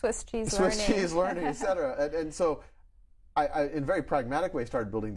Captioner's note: chuckles